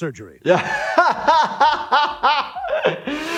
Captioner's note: laughing